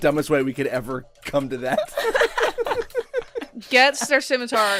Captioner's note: laughter